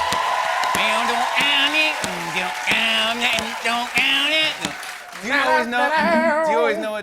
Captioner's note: cheers and applause; imitating guitar strumming